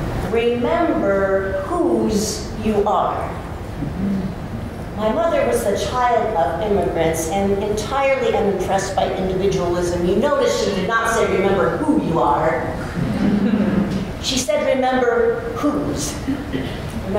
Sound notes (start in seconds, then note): 13.0 laughter